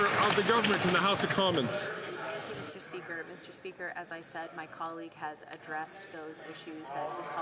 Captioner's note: some Applause